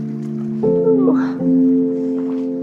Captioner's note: moans; calm music